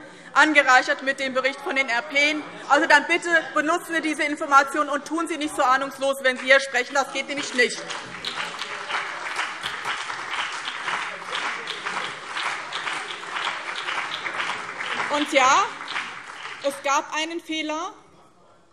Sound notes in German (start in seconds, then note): 8.5 Beifall BÜNDNIS 90/DIE GRÜNEN und CDU